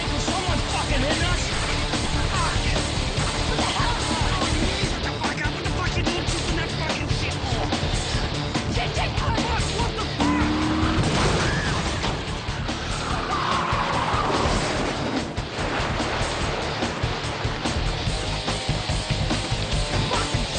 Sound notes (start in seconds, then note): 1.6 intense rock music; 4.8 group chatters loudly and indistinctly; 10.5 car engine roars; 10.7 car crashes and clanks; 11.6 female screams; 13.2 car engines whir; 13.2 intense rock music